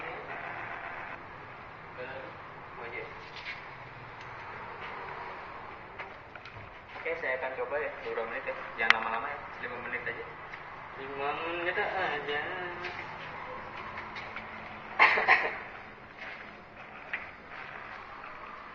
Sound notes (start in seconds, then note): 14.9 cough sound